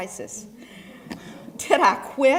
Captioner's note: laugh